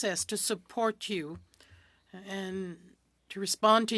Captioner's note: speaking french